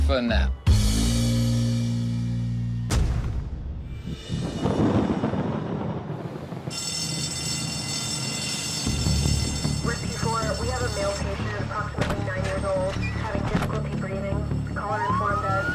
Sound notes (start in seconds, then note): 5.5 thunder; 6.6 bells ringing